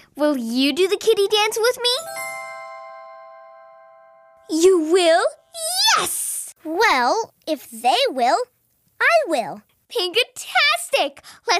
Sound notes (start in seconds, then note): 1.9 bells chiming